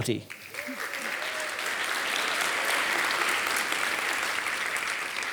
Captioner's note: audience applauding